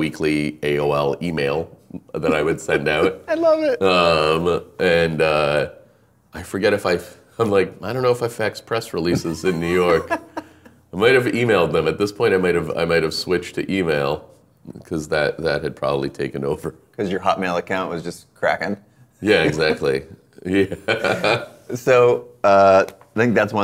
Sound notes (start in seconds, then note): 4.6 laughing; 20.5 laughing